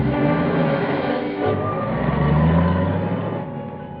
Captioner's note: engine revving; car accelerating